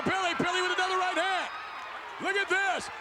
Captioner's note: spectators cheering